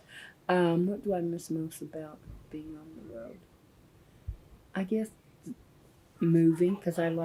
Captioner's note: laughs